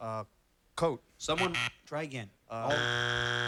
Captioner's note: buzzer